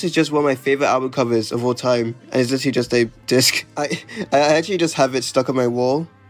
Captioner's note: laughs